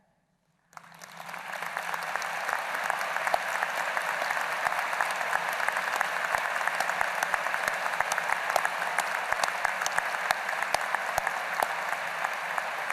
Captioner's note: applause